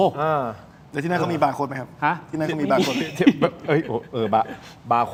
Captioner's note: laughter